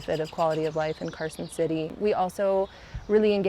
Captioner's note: none